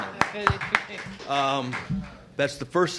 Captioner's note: applause